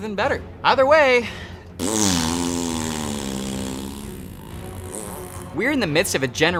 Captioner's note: fart Sound